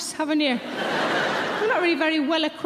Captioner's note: audience laughing